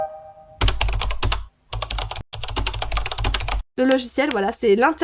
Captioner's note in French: bruit de clavier